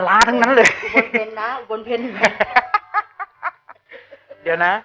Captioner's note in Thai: หัวเราะ